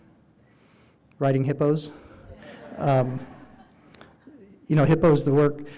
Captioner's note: audience laughing